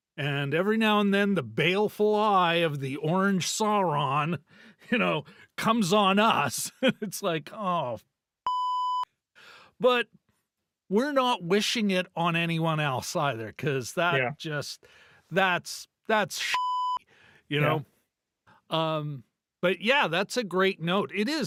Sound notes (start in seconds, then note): 8.4 beep; 16.5 beep